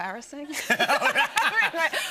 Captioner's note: laughter